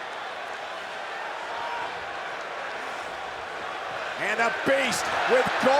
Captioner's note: crowd cheers